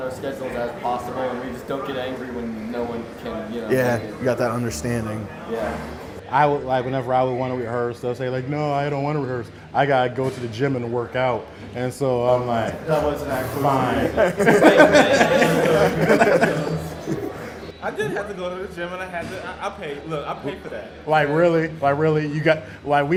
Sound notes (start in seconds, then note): 14.5 laughs